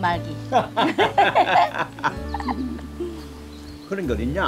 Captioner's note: both laughing